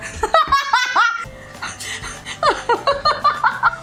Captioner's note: deep breath